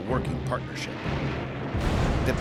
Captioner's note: explosion